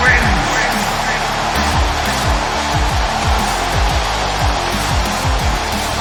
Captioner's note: crowd cheering; heavy rock music